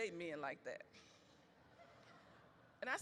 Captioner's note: audience laughs